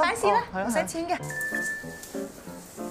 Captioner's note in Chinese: 訊息鈴聲